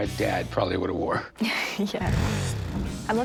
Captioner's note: laughs